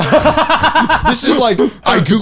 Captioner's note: laughing